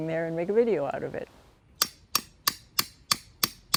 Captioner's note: hammering